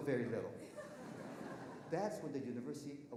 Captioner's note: audience laughing